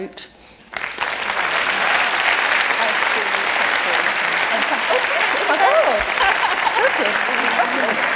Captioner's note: applause